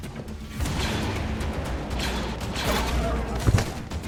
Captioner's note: blaster fires